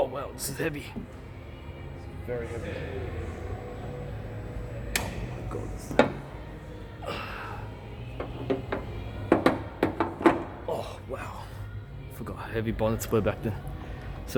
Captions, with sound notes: Oh, wow, this is heavy. Very heavy. Oh, for God's sake. (STRAINS) Oh, wow. Forgot how heavy bonnets were back then.